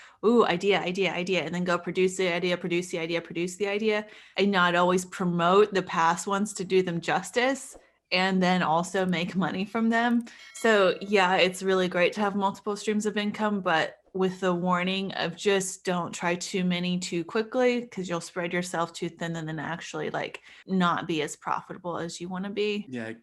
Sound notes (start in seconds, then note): 10.2 bell chiming